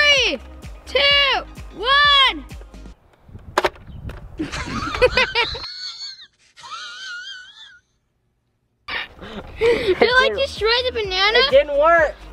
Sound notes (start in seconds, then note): 3.4 thump; 4.4 laughing; 6.0 hissing laughing